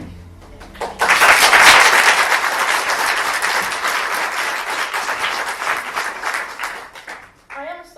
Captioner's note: applause